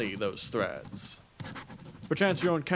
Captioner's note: writing Noises